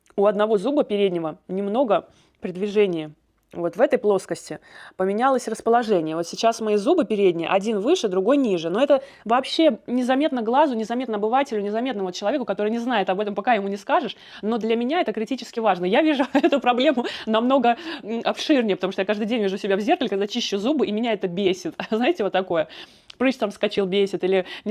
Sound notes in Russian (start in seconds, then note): 16.1 смех